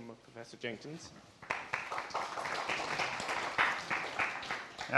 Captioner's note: applause